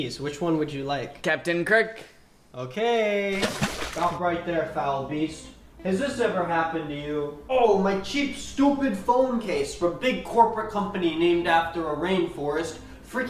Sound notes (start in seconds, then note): 3.3 water splashes loudly